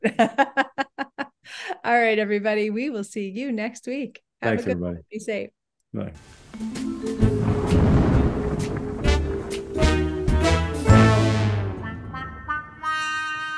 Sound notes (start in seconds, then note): 0.3 laughing; 6.4 mellow jazzy music; 7.1 thunder rumbling